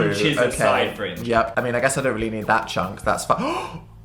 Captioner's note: gasp